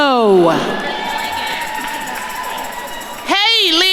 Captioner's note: attendees cheering